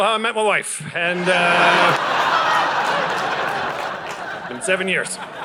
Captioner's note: audience laughing